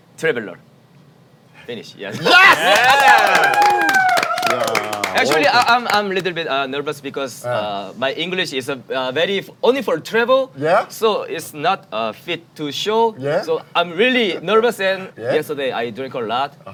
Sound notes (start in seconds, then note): 2.2 everyone cheering